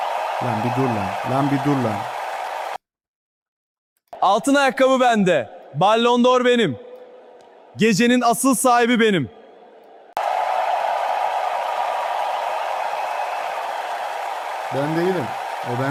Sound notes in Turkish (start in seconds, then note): 9.4 coşkulu tezahürat